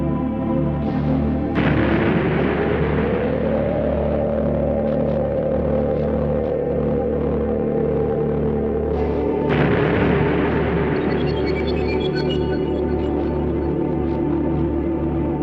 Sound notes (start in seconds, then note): 1.5 explosion booming; 3.7 suspenseful music continues; 9.4 explosion booming; 11.5 suspenseful music continues